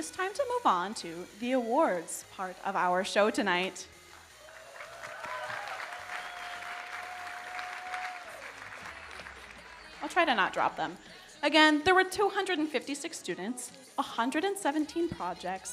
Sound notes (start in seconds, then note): 4.2 audience cheering and applauding